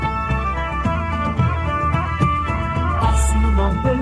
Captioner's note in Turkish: Kuşlar birbirini çağırıyor